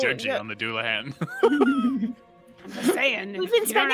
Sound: players laughing

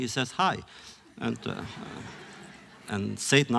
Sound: laughter

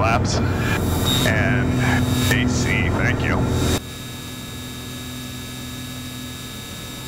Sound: plane engine buzzing

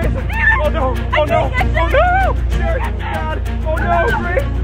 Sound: yelling

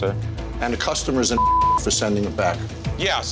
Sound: beep

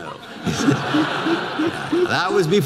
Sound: audience laughter

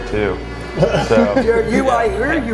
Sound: laughs

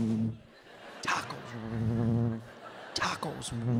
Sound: humming; humming

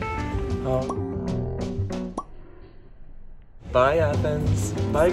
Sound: tranquil music continues; letters pop

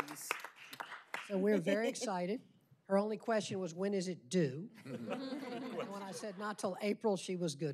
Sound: applause

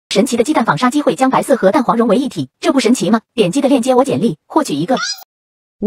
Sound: random chinese words

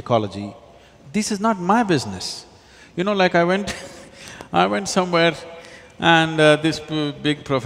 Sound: laughs

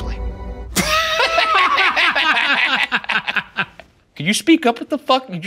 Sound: intense laughing

